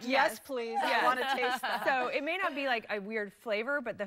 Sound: laughter

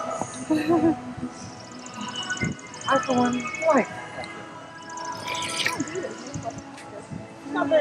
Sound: snarfling

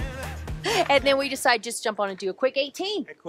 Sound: laughs

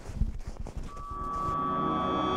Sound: high Frequency sound

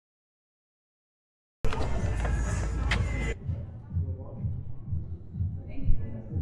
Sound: car beeping; suspenseful music

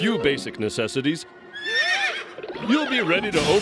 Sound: whinnies

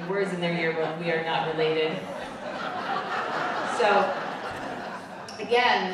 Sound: crowd laughing

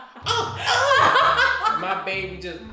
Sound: laughter

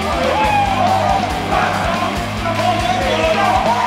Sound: men yelling

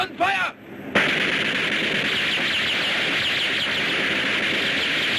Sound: guns firing

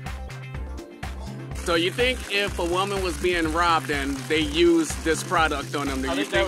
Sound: gasps

